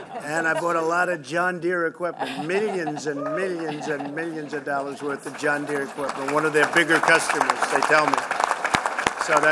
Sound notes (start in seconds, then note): 0.0 laughter; 4.8 applause